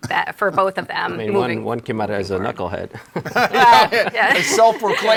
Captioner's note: laughs